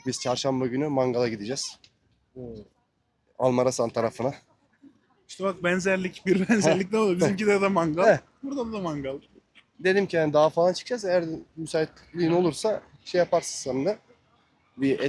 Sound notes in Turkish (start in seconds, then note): 6.3 kahkaha